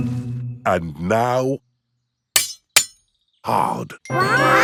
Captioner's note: shovel clanks